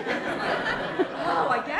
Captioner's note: laughter